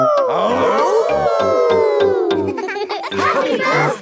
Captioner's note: howling; all howling